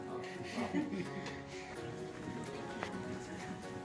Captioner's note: other guests start laughing